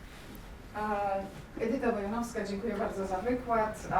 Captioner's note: speaking in foreign language